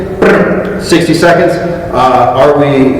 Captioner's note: fast tongue sound